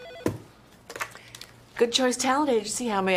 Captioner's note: phone rings